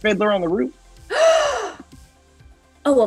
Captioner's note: Kristen gasps